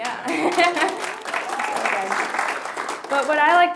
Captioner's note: applause